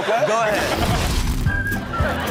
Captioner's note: audience laughs; goofy music plays